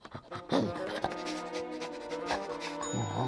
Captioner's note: sniffing